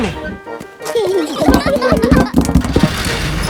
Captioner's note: children giggling